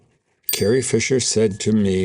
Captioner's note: bell dings